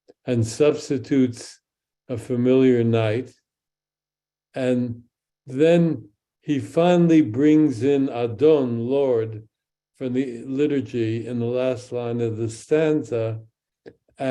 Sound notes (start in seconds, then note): 7.0 speaks in Hebrew